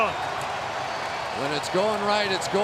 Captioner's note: cheering